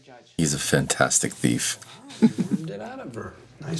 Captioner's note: chuckles